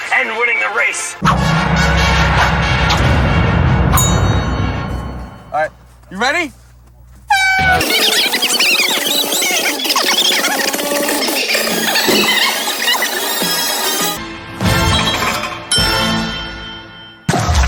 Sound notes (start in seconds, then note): 1.2 epic music; 7.3 horn of start; 13.1 epic music